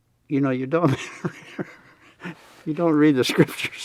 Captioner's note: laughs